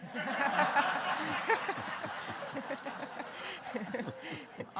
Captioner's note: audience laughing